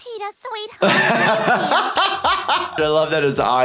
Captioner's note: laughs